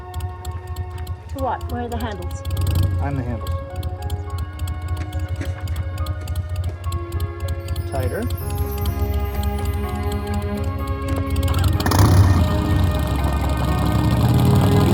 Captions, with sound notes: - To what, where are the handles? - I'm the handles. (calm music) Tighter. (motorcycle engine roaring)